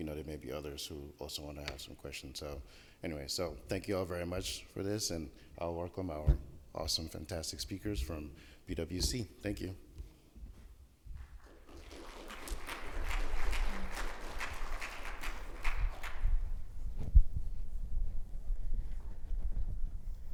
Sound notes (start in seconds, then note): 11.3 audience applauding